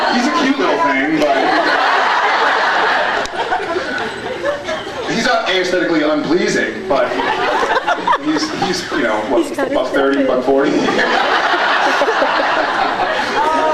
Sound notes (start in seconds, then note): 1.2 laughs; 7.0 scattered laughs; 10.6 laughs